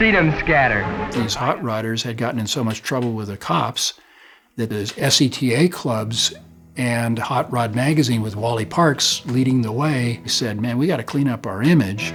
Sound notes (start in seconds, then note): 2.8 pat